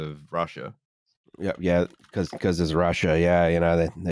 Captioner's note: keyboard tapping